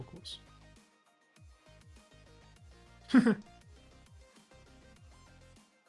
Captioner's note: laughs